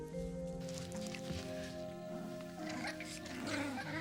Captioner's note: puppies grunting